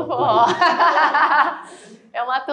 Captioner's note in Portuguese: risos